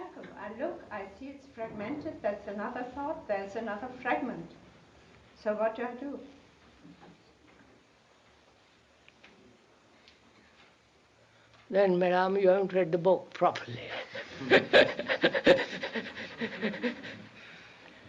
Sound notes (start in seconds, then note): 14.2 laughter; 14.3 K laughs